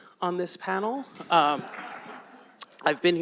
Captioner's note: laughter